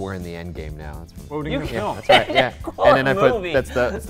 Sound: laughs

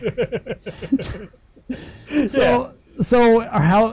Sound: laughing

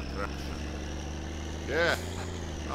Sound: engine accelerates, shifts gears

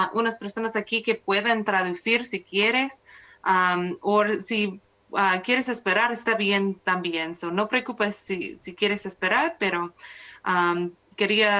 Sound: speaking spanish

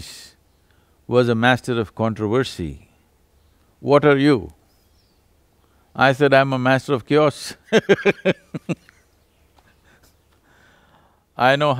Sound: laughs

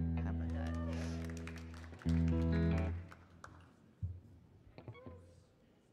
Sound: audience cheering and applauding

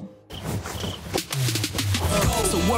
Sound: crickets chirping

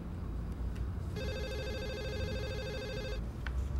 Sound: phone ringing

